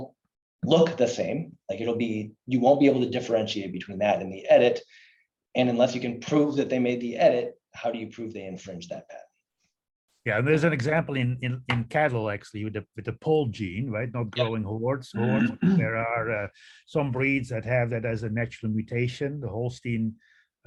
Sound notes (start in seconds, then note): 15.2 throat clearing